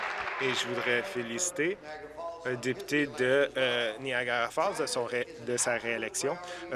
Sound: applause

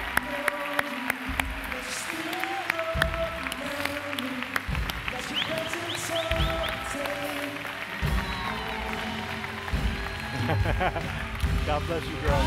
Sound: applause

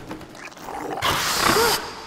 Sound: rustling; distorted growling; yelping

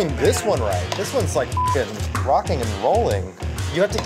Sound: beep

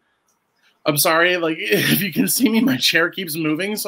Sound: laughs

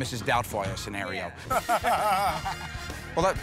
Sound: laughter

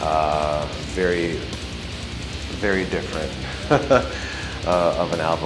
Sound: laughs

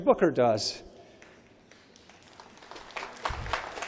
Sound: applause

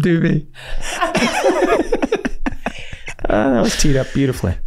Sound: all laughing

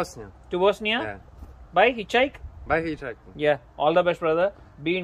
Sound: speaking in foreign language

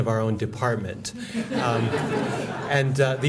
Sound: laughter

